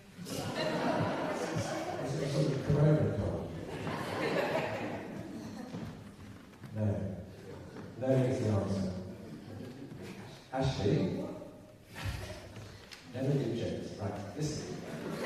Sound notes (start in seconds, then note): 3.6 laughter